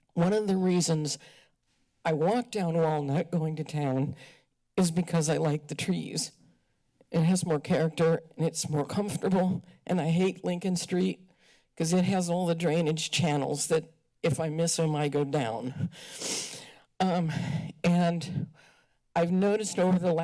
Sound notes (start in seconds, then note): none